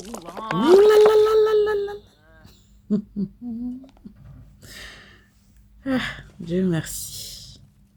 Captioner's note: laughs